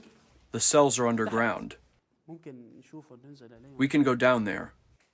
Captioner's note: through translator